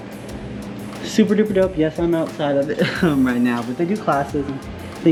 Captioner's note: laugh